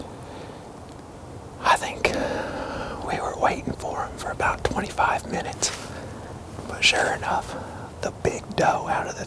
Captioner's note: whispering